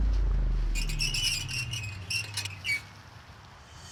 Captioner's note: key screeching